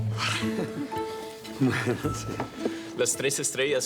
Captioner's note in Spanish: Risas